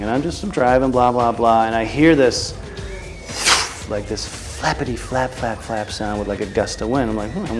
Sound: whoosh

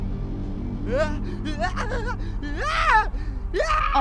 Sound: alien screams in a disturbing way

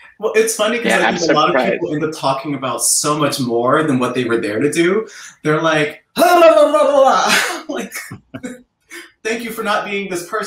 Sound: makes rapid talking sound

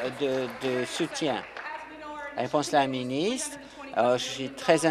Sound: applause

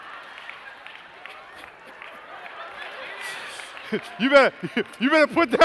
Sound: laughter

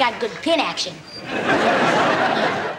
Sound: audience laughing

